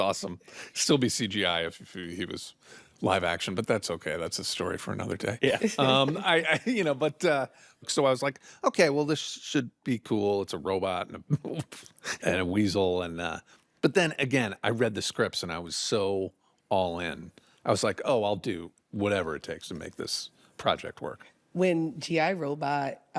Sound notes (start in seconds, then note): 5.5 laughs; 11.2 chuckles